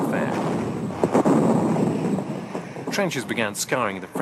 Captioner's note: bombs exploding